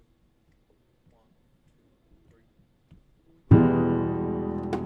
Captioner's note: musician snapping fingers